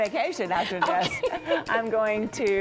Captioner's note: laughing